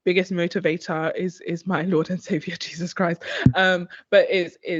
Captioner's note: chuckles